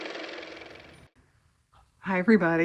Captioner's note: car motor